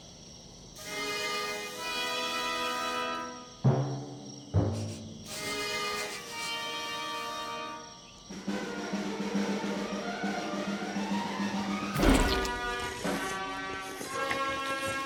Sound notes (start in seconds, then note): 5.9 Ginger sniffing; 11.9 Ginger biting, sucking